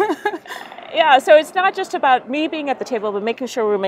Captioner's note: laughter